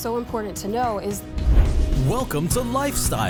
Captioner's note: screen whooshing